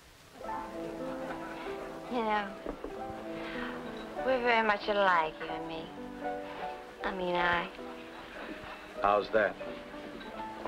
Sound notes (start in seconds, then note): 0.7 party goers chattering; 0.7 upbeat music